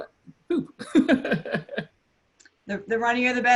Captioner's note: laughs